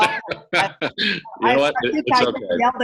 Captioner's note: laughs